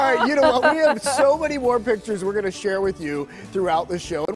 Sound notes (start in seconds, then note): 2.1 laughter